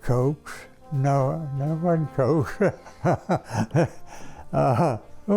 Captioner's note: laughs